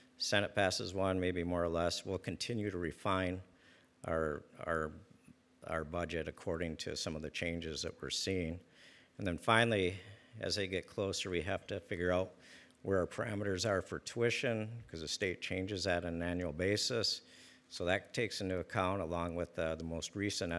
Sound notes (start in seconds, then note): none